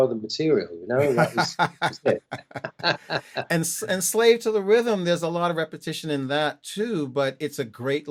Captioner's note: laughter